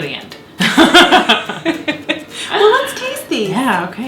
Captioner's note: both laughing